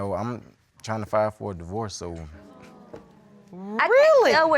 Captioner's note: audience exclaiming